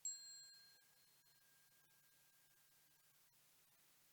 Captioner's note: bell dinging